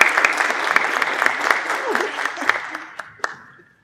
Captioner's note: applause